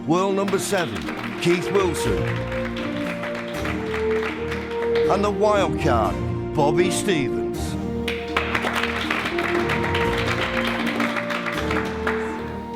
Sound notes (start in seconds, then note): 2.7 audience claps; 8.0 audience claps